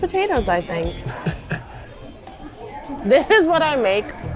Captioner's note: chuckles